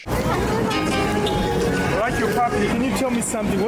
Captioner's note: loud street noise